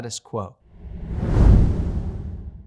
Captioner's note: logo whooshes